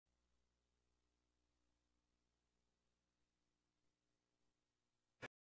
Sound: silence

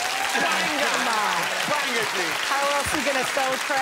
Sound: audience applauding; audience laughing

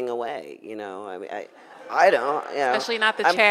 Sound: audience laughs

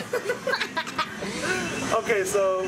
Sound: laughing

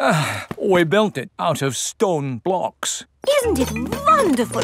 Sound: sighs

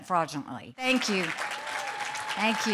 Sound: cheers and applause

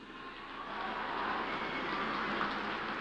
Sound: applause

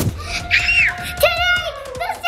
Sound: screaming

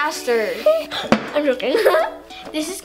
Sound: laughing

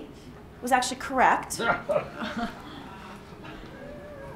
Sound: laughter

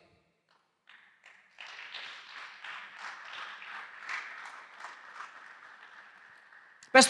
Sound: applause

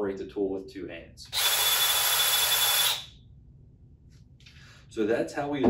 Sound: drill buzzing

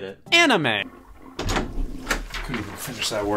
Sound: toilet Flushes

